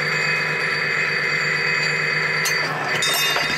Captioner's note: metallic clacking, clanging